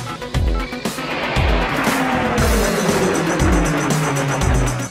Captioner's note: car engine revving